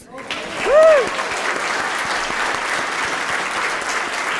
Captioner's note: applause